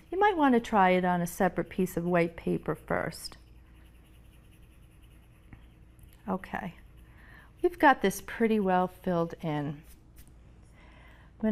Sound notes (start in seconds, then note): 6.0 pencil scratching